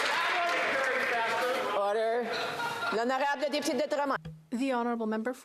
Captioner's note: some Applause